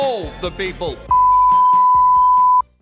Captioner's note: beep